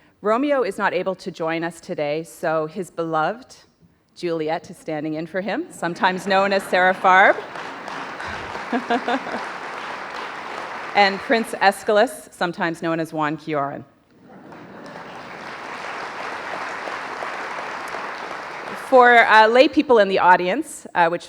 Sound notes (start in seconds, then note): 8.3 audience applauding